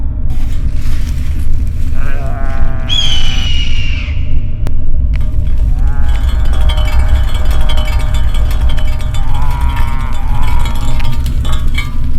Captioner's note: Hungry Cannibal growls